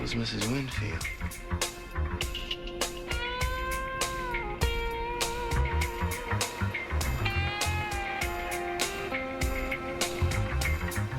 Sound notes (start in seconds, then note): none